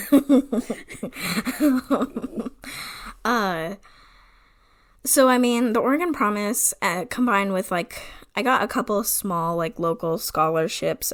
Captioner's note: laughs